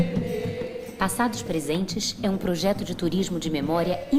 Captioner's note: non-english speech